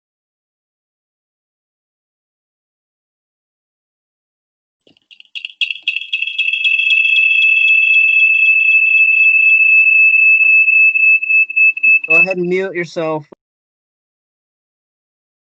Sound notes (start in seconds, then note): 5.3 screeching noise is made from the computer mic